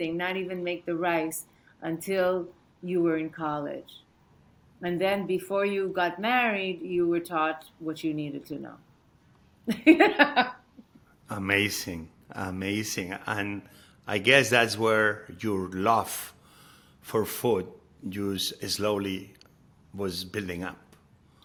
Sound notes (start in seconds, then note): 9.7 laughing